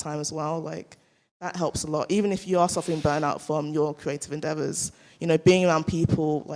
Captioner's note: none